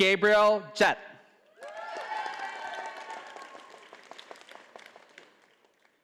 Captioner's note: audience applauding